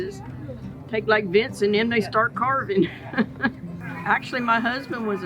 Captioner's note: laughs